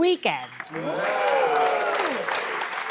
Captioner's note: audience cheering